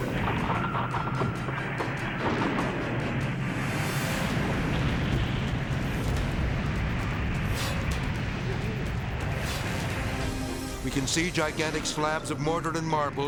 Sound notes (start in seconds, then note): 0.1 building roaring; 3.9 ruble thundering